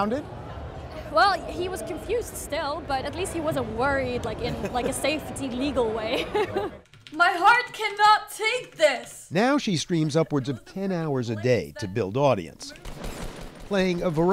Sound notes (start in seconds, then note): 6.0 laughter